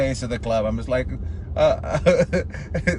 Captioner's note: laughs